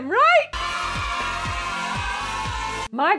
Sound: celebration cheering

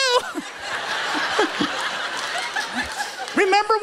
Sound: laughter

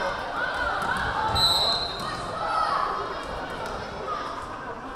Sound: whistle blaring

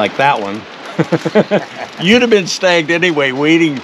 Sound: chuckling

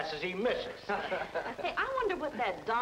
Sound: men laughing

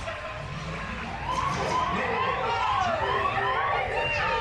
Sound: ride alarm noise; Zurg speaks French

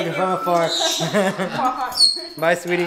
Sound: laughs

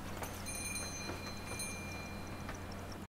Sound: bell dings

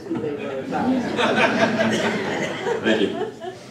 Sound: laughter

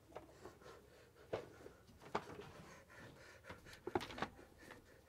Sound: breathing rapidly

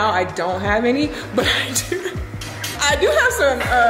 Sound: chuckling

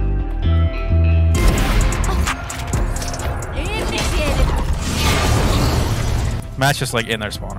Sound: gun bangs

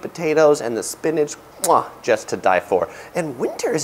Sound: smacks lips

